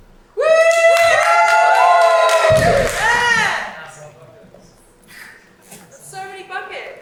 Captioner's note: audience cheering